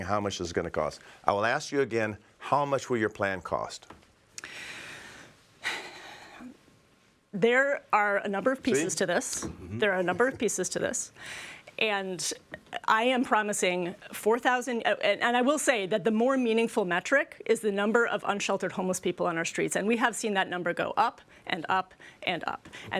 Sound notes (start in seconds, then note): 9.5 sighs